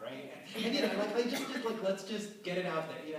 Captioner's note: laughter